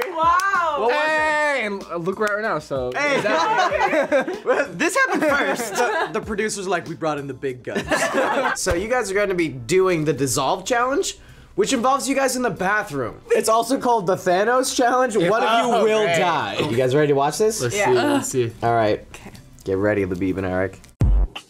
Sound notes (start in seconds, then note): 3.0 all laugh; 7.8 all laugh